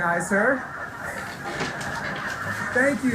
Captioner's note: audience laughing